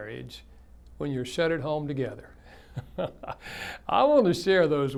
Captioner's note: laughs